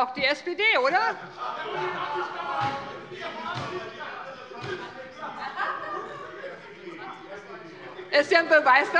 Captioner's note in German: Lachen bei der SPD und der FDP - Zurufe von der SPD und der FDP